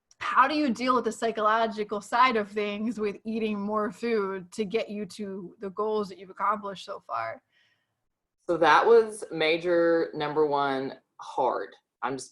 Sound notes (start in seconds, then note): none